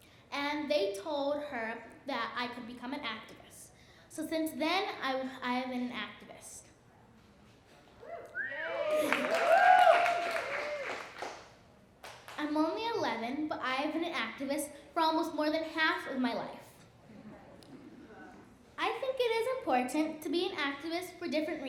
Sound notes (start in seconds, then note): 8.0 cheering and clapping; 9.1 laughs